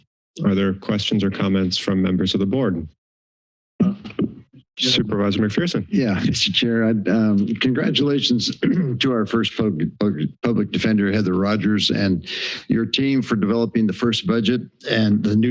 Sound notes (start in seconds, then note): 3.0 silence; 8.4 clears throat